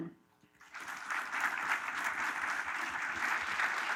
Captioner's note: applause